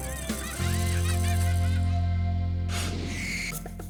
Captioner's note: children laughing